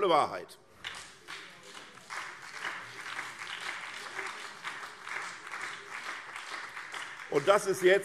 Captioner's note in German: Beifall SPD, vereinzelt CDU und BÜNDNIS 90/DIE GRÜNEN